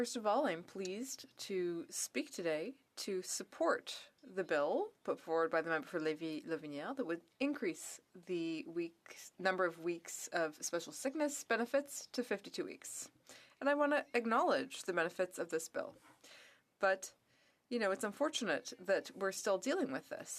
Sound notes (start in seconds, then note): 9.7 speaking French